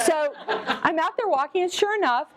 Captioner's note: laughter